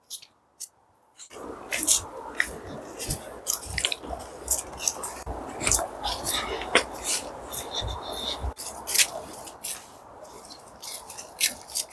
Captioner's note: footsteps